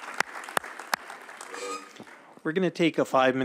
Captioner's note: applause